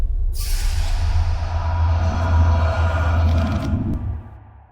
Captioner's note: freaky whispering